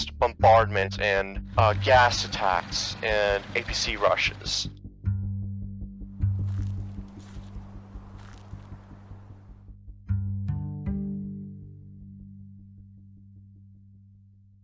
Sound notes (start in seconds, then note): 6.2 footsteps